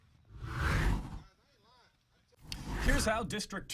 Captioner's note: air whooshes